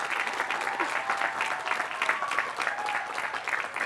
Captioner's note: applause